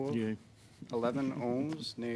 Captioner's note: speaking French